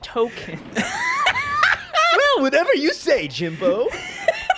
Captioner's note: laughing; Hugh Neutron voice